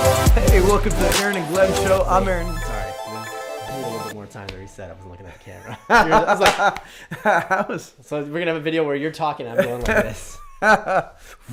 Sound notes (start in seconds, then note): 5.4 laughs; 6.4 clap